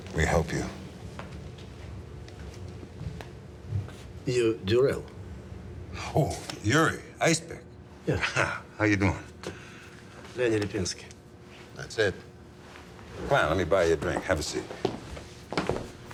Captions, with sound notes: Can we help you? - You're Durelle? - Oh, Yuri, Icepick. - Yeah. - (laughs) How you doing? - Lenny Lapinski. - That's it. - Come on, let me buy you a drink. Have a seat.